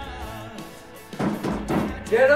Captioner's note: pounding on door